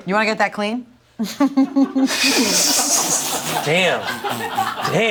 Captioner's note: all laugh